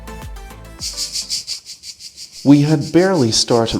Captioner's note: sound of cicadas